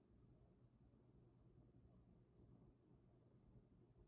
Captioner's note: none